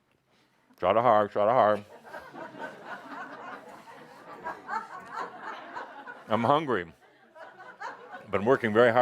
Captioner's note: laughter as he says it with a full mouth